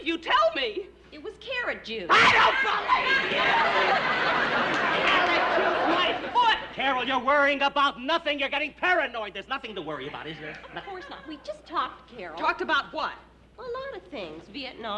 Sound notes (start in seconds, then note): 2.0 yells